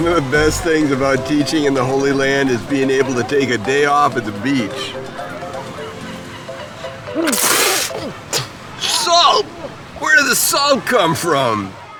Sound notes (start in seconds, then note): 7.1 spits